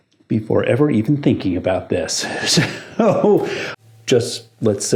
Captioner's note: laughs